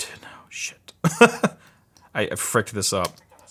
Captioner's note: laughing